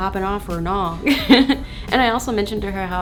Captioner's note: laughs